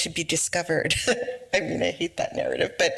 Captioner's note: laughs